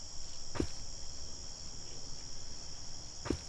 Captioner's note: thud of footsteps